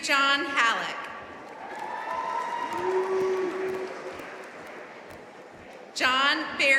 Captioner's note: audience cheering and applauding